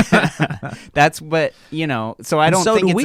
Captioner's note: laughing